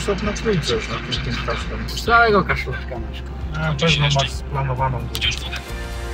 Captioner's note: operator's voice